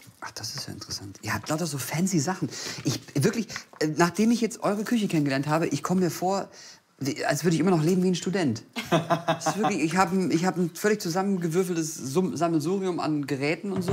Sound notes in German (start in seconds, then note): 8.8 lacht